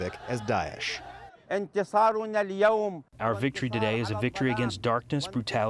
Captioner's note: through translator